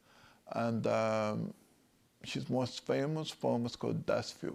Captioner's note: speaks German